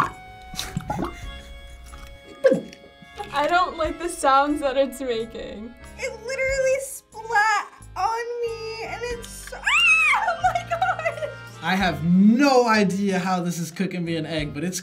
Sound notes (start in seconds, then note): 0.5 egg gurgles; 2.3 laughs; 9.6 screams